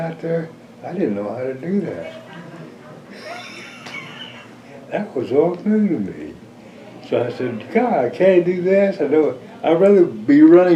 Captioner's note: laughs